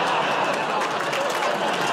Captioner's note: audience groans